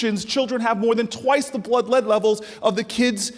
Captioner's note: none